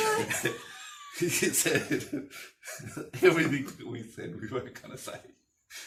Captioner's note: laughter; laughing